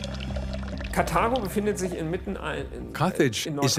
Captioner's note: speaking in foreign language